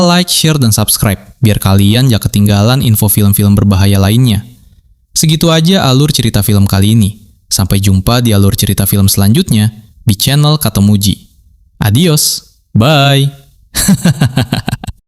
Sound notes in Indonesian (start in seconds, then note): 13.8 tertawa